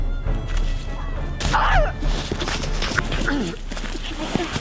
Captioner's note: grunts loudly